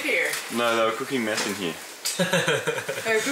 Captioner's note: laughter